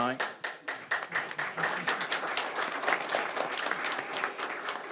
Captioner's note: audience applauds